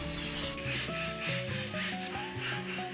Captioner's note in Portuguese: som da serra